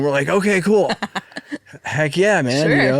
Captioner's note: laughing